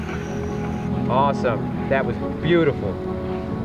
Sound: male Voice

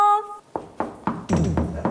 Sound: knock, knock

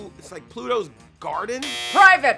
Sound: buzzer

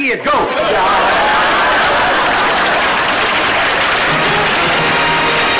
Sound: audience laughter

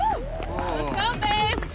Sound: clapping

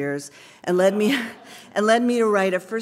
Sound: laugh

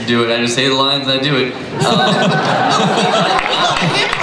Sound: everybody laughs

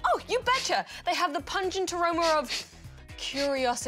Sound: sniffs

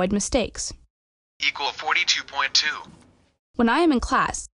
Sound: calculator Voice

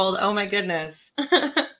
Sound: laughs

